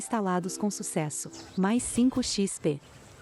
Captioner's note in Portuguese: Ruídos de vento